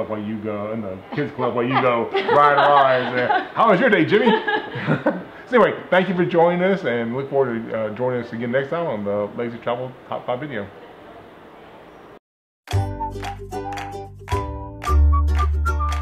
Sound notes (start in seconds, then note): 4.6 laughs; 12.6 upbeat music